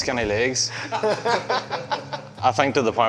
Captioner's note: laugh